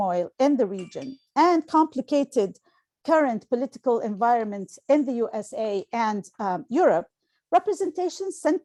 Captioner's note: phone chime